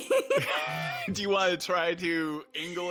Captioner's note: artists laughing